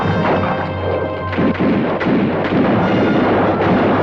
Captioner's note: guns fire